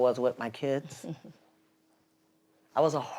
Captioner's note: chuckles